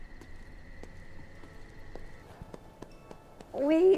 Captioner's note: footsteps thudding